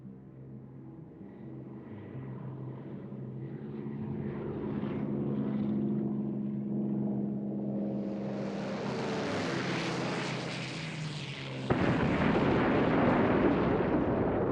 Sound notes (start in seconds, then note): 5.3 propeller whirring; 11.6 explosion